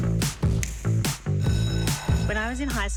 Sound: upbeat music playing; school bell rings

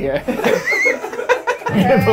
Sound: all laughing

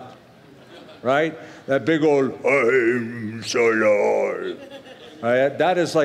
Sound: gruffly

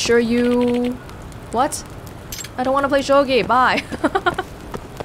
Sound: chuckles

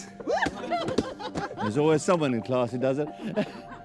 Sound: laughing

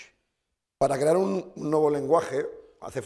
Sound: speaking spanish

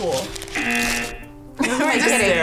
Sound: buzzer rings

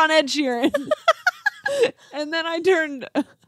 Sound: group laugh

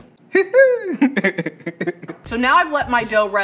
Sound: laughter

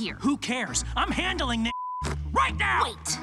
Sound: beep

